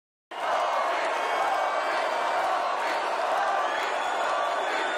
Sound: crowd chanting " "

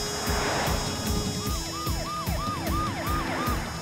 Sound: car speeding; siren wailing

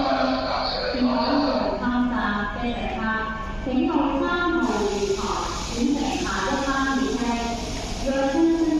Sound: Cantonese

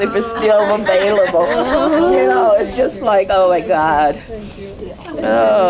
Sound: laugher

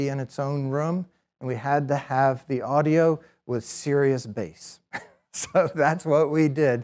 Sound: chuckles

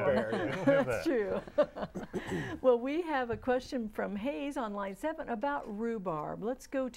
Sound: laughing

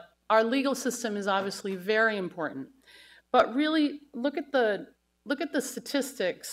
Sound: none

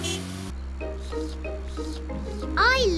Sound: slurping

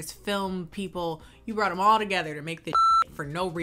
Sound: beep

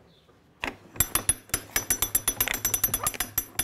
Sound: rattling

